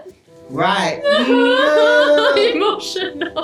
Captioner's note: sobs in unison